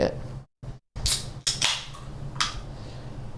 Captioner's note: can oppening